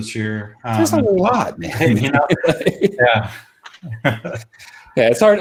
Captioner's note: chuckling